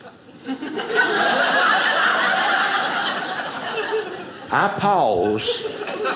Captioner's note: audience laughing